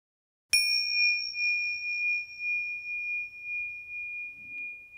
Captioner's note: chime tings and resonates